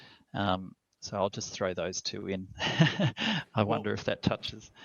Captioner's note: chuckles